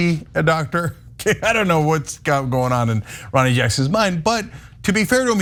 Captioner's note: laugh